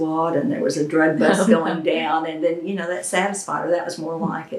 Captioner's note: laughter